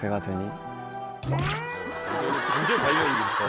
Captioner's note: laugh!